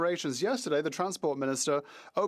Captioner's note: speaking French